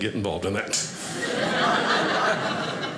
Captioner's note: audience laughing